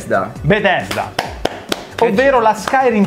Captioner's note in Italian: clap